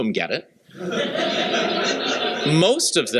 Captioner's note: laughter